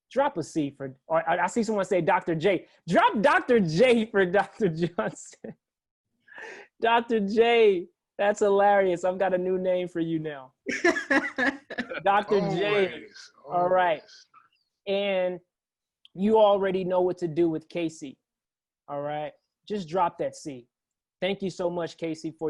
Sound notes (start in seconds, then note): 5.1 laugh; 10.7 laugh